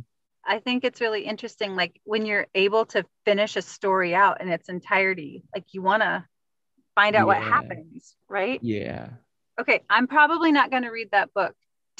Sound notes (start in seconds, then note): 7.2 snickers